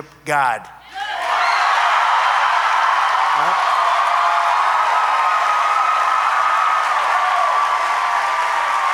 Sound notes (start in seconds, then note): 1.3 applause